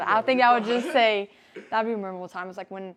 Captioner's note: laughs